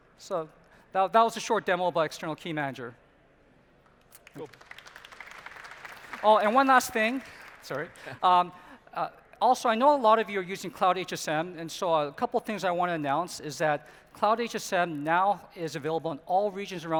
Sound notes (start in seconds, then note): 4.0 applause